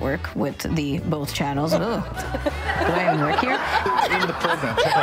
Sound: attendees laughing

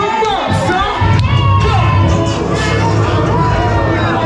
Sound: crowd cheers

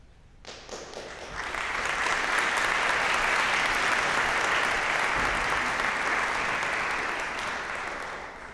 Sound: applause

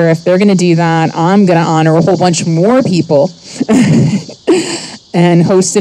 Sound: chuckles

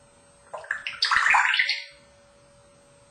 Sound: water "gurgle" sound

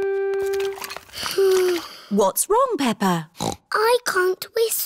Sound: sighs; snorts

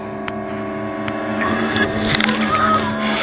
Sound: bones crunch

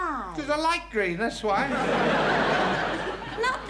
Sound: audience laughing

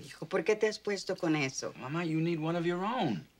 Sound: speaking spanish

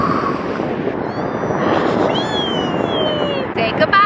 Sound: laughing; squealing with excitement

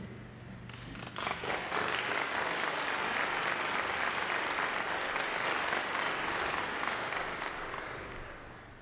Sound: applause

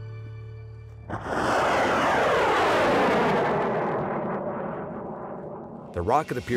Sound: rocket launching

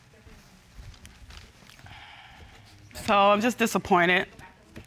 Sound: sighs

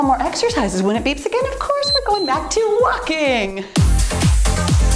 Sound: timer beeps; cheerful music

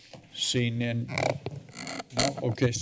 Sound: creaking sound

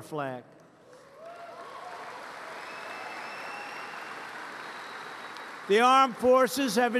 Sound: applause

